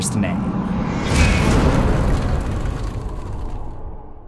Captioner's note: impact